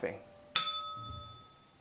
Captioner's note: bell rings